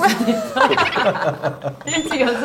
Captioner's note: laugh